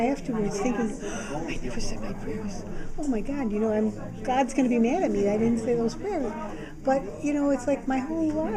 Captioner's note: gasp